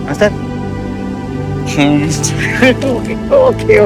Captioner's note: Anton laughs gratefully